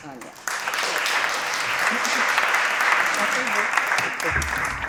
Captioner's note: audience applauding